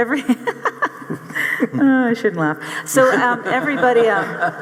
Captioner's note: audience laughing; laughs